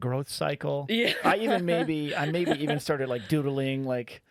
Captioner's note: laughing